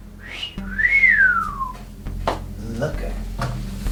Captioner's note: whistles